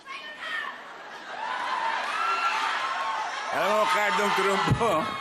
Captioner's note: crowd cheering